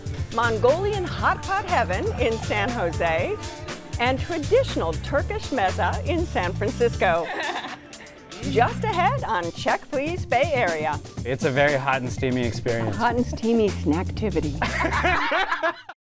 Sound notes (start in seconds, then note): 7.2 laughs; 14.5 laughter